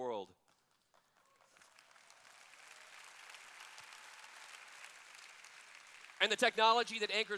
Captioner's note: applause